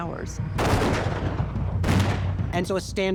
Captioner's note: gunfire